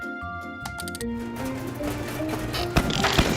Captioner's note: dial clicking; heater rattling